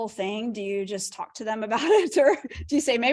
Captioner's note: laughter